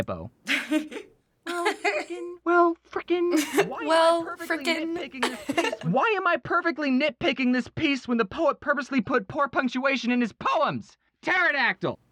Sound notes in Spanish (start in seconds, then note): 1.4 risas